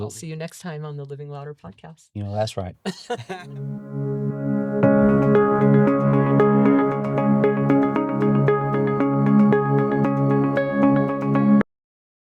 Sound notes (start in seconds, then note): 2.8 laughing; 3.6 upbeat music